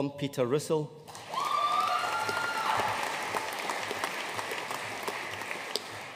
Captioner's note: audience cheering and applauding